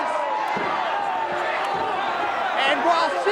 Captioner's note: crowd chattering